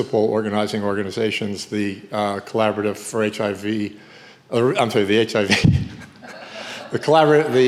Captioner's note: chuckles